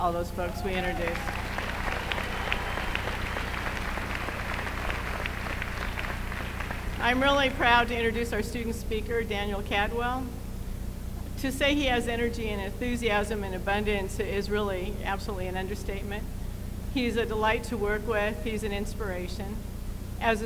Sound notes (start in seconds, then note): 3.5 applause